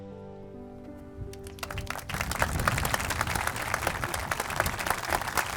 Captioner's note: audience applauding